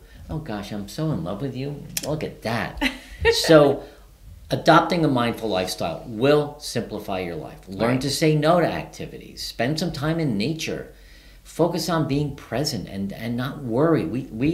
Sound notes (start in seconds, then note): 1.4 smooching; 2.8 giggling